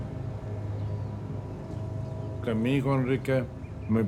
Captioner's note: man 3 in Spanish